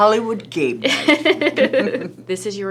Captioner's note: laughing